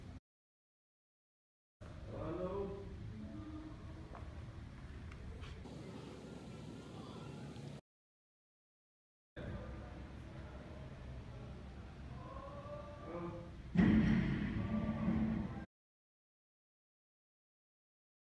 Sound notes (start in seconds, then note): 13.7 crash